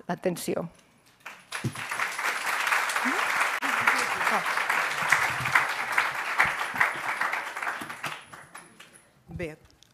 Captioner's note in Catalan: aplaudiments